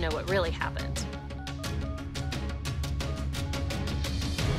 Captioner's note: dialling